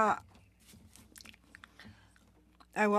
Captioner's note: speaking French